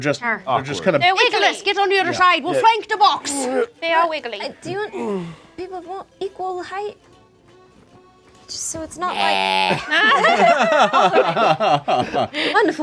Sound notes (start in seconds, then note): 3.5 Ikyulus grunts; 9.0 laughing